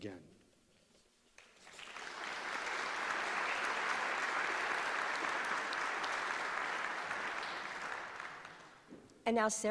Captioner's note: applause